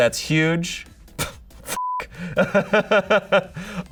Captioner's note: beep; laughs